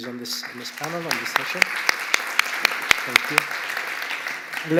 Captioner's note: applause